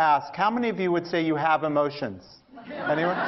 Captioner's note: laughter; 笑聲